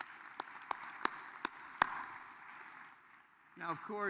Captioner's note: applause